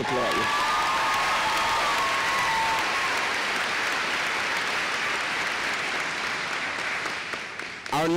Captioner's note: applause